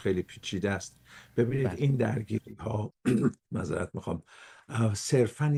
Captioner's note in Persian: گلویش را صاف می‌کند